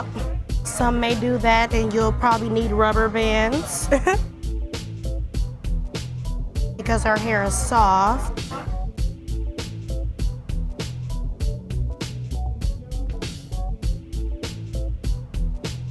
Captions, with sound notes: Some may do that, and you'll probably need rubber bands. (laughs) Because her hair is soft. (mid-tempo instrumental music)